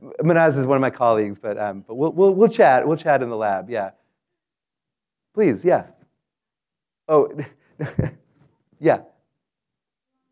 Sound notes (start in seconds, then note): 7.8 laugh